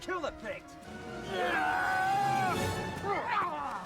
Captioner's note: men yell